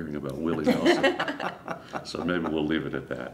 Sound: laughs

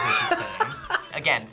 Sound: laughs

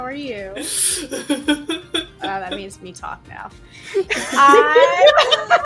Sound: laughter

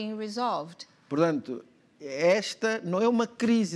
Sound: speaking portuguese

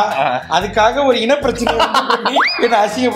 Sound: laughs

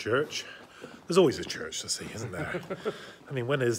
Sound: chuckles

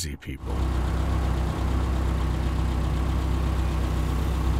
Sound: car engine roaring

